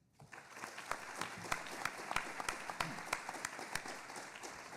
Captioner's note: audience applauding